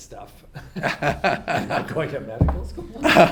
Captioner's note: laugh